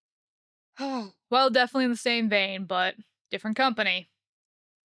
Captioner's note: sighs